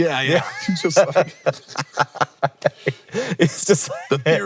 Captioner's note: both laughing